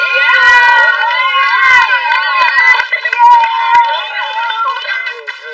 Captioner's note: appuse